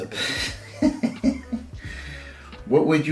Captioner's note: chuckles